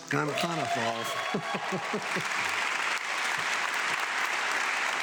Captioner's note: audience clapping